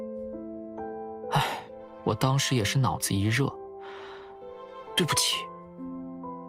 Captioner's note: sigh